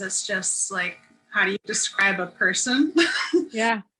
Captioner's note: laughter